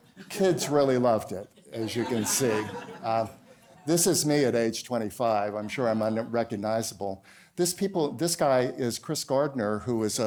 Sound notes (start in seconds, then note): 1.6 laughter